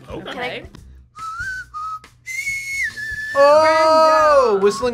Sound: whistles

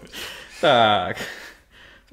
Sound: laughter

